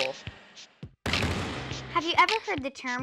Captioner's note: loud thumping